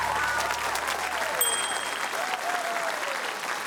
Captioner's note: ding!